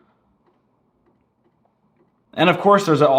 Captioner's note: slow, faint clicking